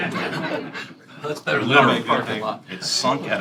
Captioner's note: laughter